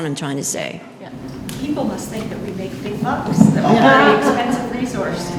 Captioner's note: laughter